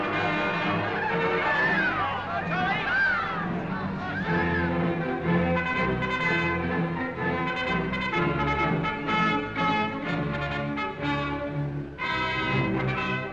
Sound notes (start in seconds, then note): 1.7 crowd chattering; 1.7 people cheering; 5.7 brass fanfare